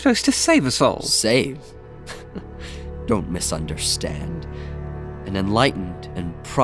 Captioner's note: chuckles